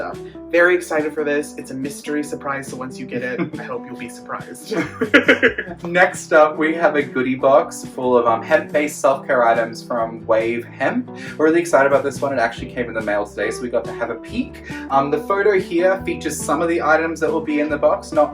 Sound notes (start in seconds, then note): 4.7 laughs